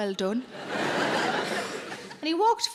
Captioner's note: audience laughs